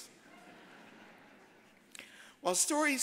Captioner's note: audience laughs